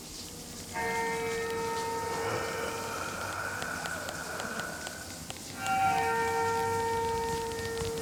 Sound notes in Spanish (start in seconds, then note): 0.7 música inquietante; 2.0 sibilancias del cadáver